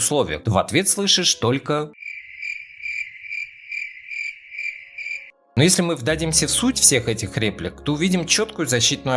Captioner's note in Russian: звук сверчков